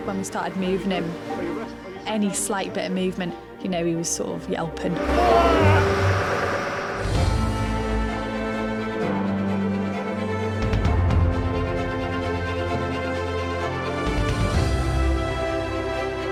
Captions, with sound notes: - When we started moving him, any slight bit of movement, you know, he was sort of yelping. (man screaming) (gentle dramatic music)